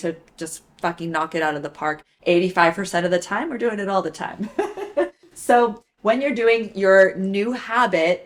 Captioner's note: laughs